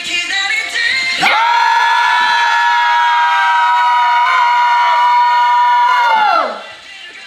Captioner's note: scream for 5 seconds